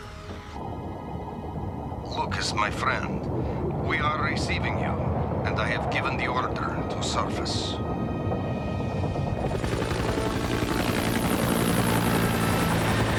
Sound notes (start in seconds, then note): 8.8 aircraft noise